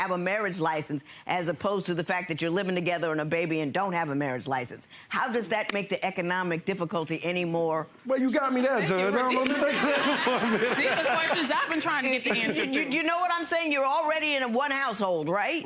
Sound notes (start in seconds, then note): 9.1 laughs; 11.7 audience laughing; 11.7 laughter drowns out